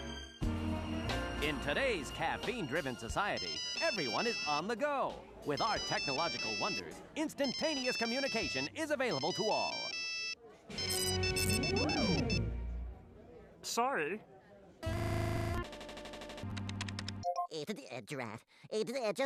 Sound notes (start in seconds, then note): 10.7 beeping; 14.9 buzzing; 19.0 stuttering